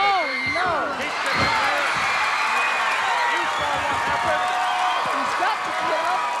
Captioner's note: audience cheering and clapping